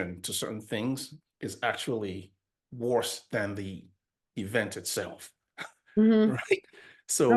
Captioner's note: laughs